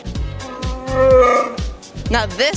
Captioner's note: Chewbacca roar